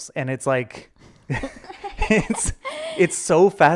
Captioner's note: laughing